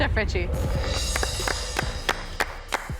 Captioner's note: clapping